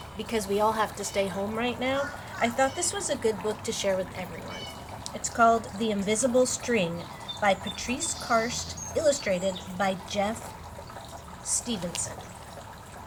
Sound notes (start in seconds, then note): 1.9 bird chirping in background